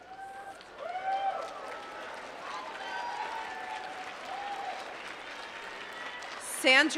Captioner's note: applause